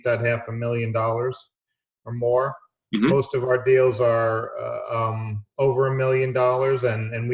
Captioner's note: none